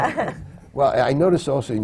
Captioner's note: laughter